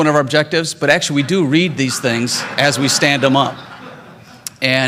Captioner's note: laughter